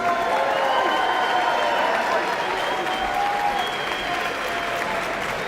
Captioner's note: audience cheering and applauding